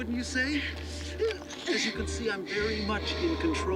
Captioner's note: groans